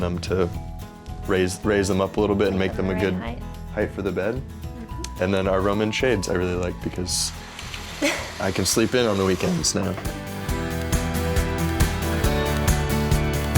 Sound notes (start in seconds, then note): 7.5 sliders grinding; 8.0 laughs; 10.3 laid-back pop music